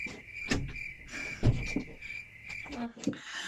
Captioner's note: door closing